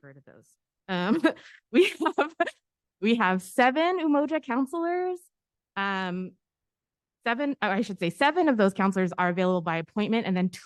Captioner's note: laughter